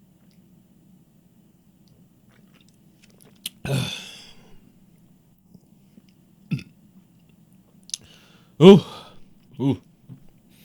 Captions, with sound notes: (gasps) (burps) - Ooh, ooh, nice.